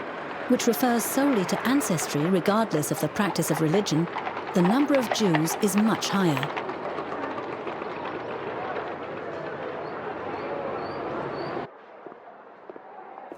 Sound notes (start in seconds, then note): 7.0 hooves clopping